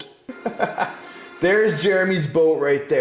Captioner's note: laughing